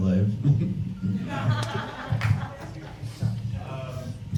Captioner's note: audience laughs; laughs